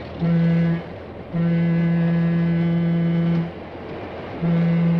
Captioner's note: train whistle blows